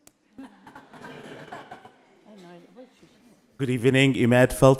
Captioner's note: all laughing